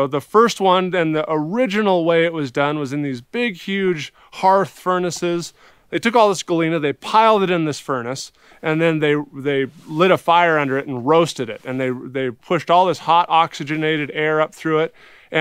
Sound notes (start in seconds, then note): none